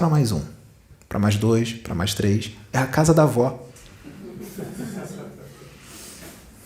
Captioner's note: laughs